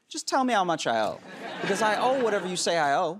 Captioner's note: laughter